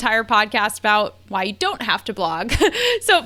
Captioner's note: laughs